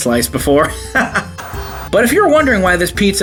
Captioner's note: laughs; TV Static